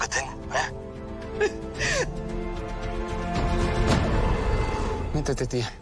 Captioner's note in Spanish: Sollozos